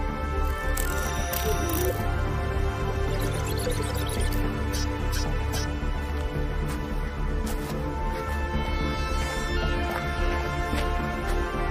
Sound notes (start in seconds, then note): 0.7 computer whizzing; 4.9 glove beeps